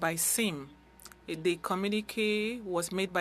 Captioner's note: speaking French